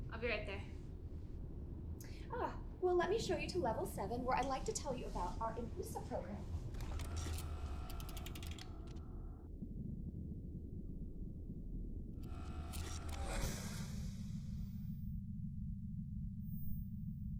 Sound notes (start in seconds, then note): 6.8 door buzzes; 14.0 soft haunting music